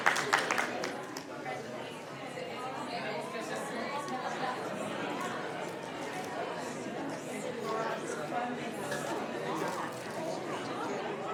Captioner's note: applauding